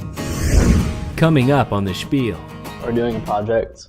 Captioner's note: voiceover